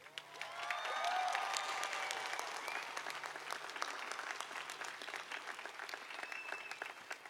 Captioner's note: applause